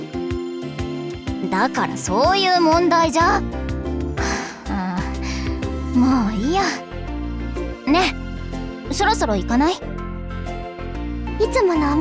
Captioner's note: sigh